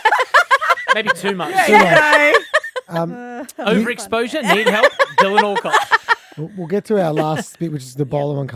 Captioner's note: laughing